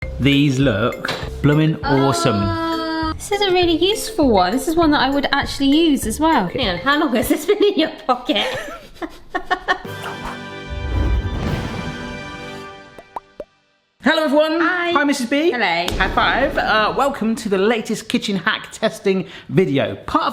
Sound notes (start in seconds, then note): 8.3 both laughing; 9.8 triumphant melodic music; 15.9 hands slapping